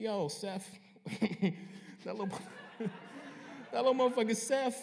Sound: laughter

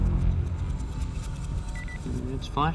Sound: beeping

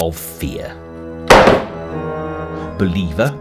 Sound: door slams

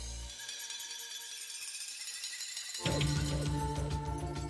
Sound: metals jingle

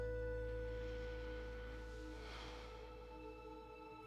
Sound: sighs

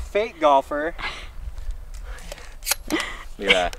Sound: chuckling

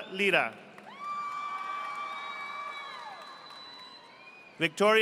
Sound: audience applauding

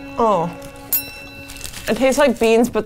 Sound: bell ringing

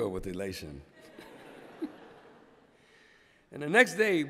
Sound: laughter

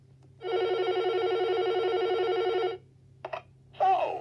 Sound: phone ringing

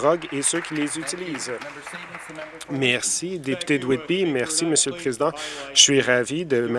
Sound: some Applause

